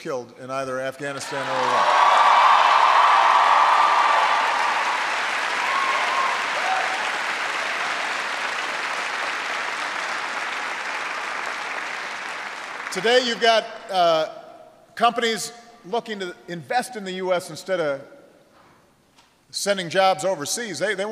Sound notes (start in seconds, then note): 7.4 applause